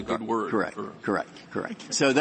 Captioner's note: laughter